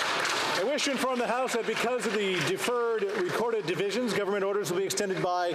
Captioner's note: some Applause